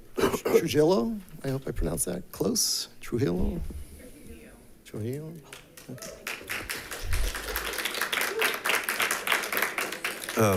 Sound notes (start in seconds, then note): 4.4 members murmuring; 5.4 members clapping